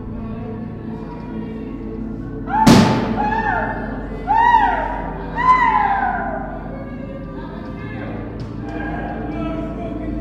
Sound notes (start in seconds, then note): 1.5 howling and banging; 3.6 inmates shouting